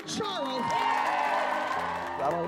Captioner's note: cheering